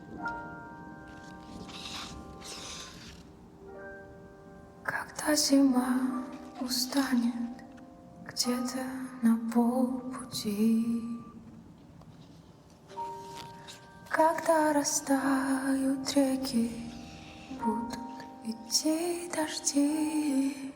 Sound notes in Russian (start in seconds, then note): 2.4 фыркает